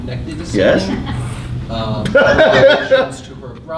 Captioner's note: laughing